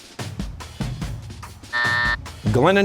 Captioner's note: buzzer